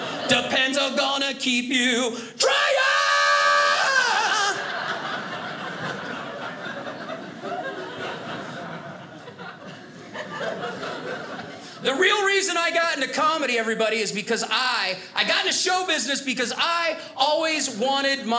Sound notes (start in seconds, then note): 4.3 audience laughing